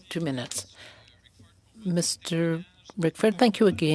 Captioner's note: speaking French